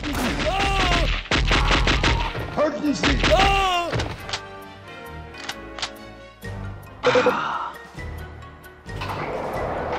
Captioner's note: game sounds